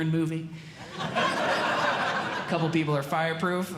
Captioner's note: audience Laughing